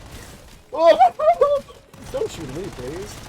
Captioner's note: intelligent primate noises